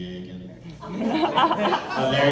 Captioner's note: laughter